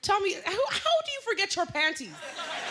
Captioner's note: laughter